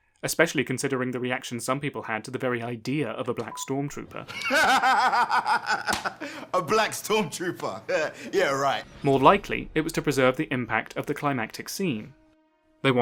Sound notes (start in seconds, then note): 4.2 laughs